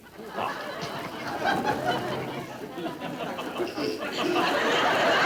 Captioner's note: audience laughter